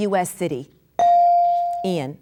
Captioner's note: bell dinging